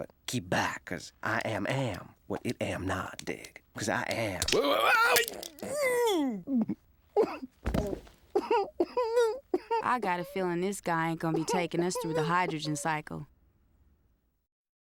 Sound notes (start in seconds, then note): 4.5 agonized cry; 8.3 crying